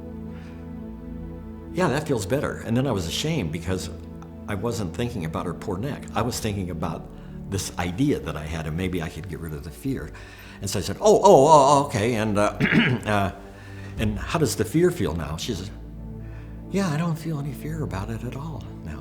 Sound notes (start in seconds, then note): 12.5 clears throat